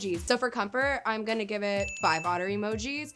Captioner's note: bell ringing